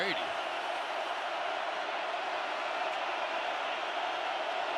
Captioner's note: cheering